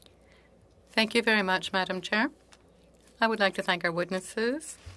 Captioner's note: speaking French